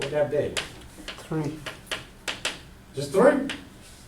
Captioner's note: voiceover